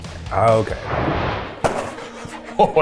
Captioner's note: animate explosion booming; laughs